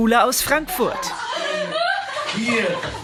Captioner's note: laugh